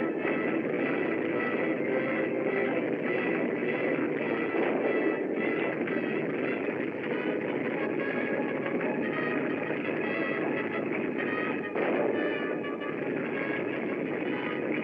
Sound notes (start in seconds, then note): none